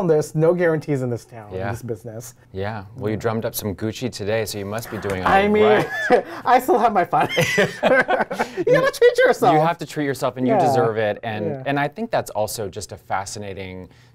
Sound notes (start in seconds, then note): 7.2 both laughing